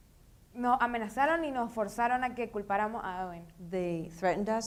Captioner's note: speaking in foreign language